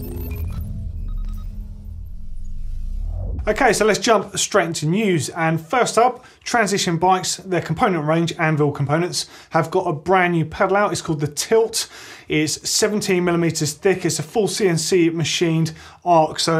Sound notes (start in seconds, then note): 0.0 delicate electronic beeping